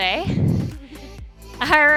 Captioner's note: laughing